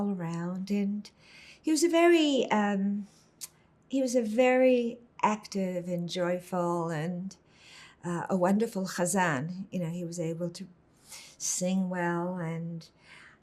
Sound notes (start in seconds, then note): 8.0 hebrew